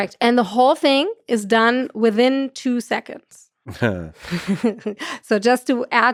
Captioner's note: chuckles